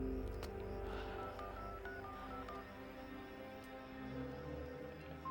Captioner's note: phone beeping